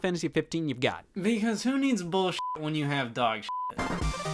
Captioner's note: upbeat music; beep